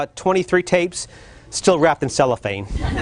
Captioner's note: laughter